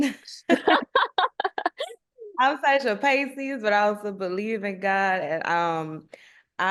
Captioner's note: laughter